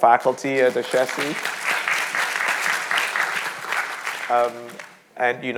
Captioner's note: audience applauding